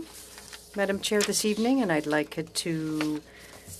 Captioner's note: speaking French